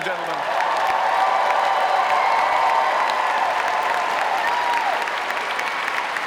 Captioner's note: audience applauding; audience cheering